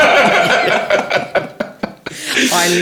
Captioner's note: laughing